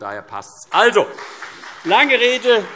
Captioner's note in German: Beifall CDU und BÜNDNIS 90/DIE GRÜNEN